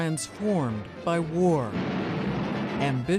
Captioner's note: explosion